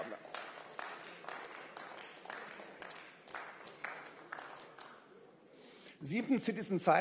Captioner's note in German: Beifall